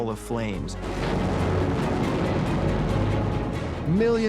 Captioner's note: explosion booming